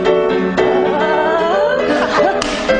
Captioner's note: upbeat jazz music; Velma vocalizing; both chuckling; hands clapping